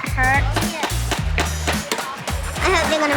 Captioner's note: hammering